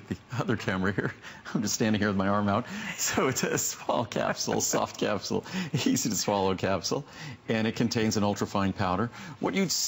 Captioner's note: laughter